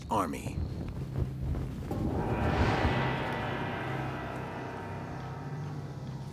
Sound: gentle ominous music; flame whooshing

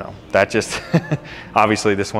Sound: chuckling

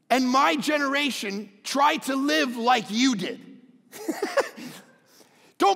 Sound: laughs

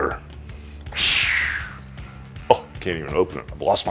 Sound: whooshing

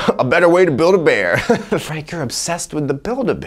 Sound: laughs

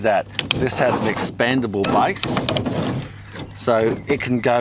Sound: sifter scraping

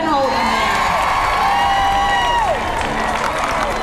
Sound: cheering

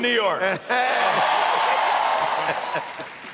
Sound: applause

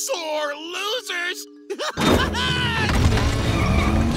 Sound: laughing

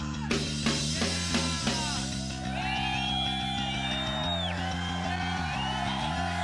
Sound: energetic rock music; cheering

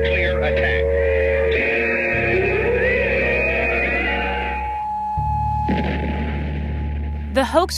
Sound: explosion

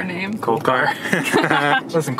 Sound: laughter

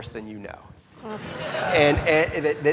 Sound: audience laughing

